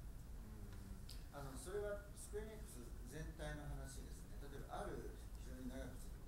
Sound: speaking in foreign language

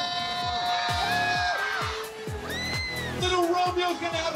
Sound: crowd cheers

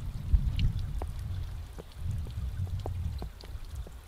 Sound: water running

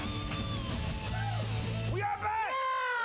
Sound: audience cheering; upbeat rock music

